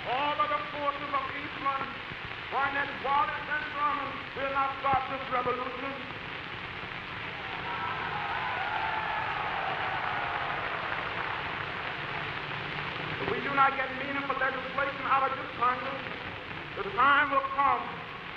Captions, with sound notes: All of the forces of Eastland, Barnett, Wallace, and Thurmond will not stop this revolution. [CHEERING] If we do not get meaningful legislation out of this Congress, the time will come